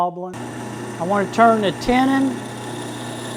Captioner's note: machine running